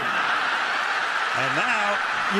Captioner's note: cheering